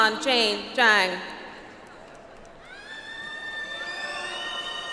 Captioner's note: audience applauds